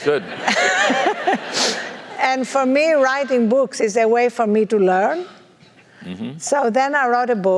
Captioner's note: laugh